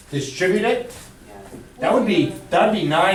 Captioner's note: voiceover